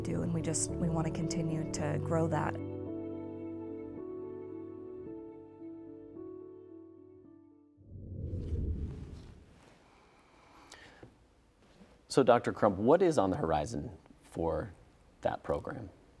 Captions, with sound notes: and we just, we want to continue to grow that. (gentle music) (screen whooshing) - So Dr. Crump, what is on the horizon for that program?